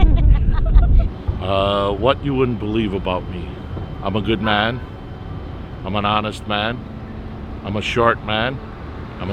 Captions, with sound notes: (people laughing) - What you wouldn't believe about me. I'm a good man. I'm an honest man. I'm a short man.